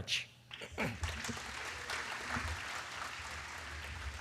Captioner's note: applause